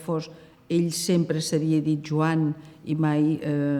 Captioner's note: in Catalan